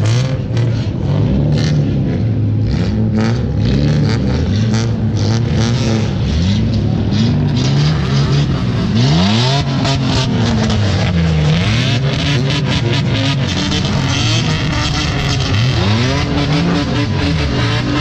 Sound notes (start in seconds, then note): 1.3 engine roaring